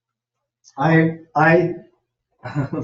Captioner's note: chuckles